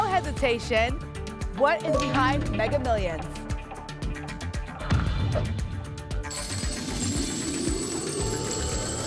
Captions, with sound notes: hesitation. What is behind Mega Millions? [THUMP] [COINS JINGLING]